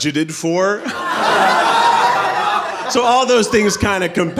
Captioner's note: audience laughing